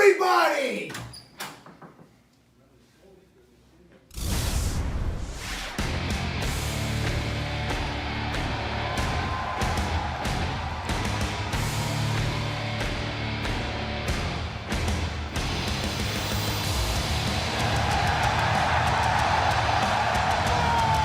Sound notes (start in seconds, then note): 8.4 cheers and applause